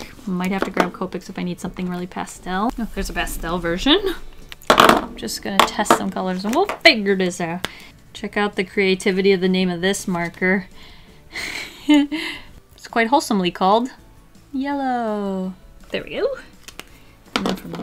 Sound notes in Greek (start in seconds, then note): 11.4 Γέλια